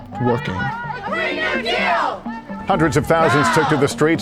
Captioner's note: chanting